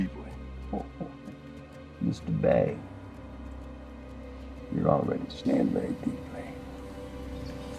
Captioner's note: chuckles